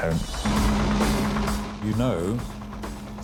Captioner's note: lifeboat engine whirring